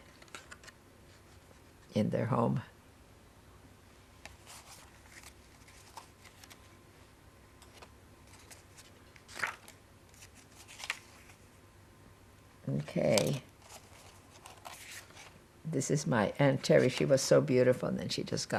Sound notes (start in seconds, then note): 3.5 pauses 10 seconds